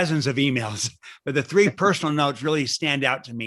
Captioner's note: laughter